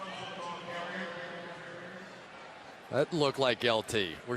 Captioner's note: pa announcement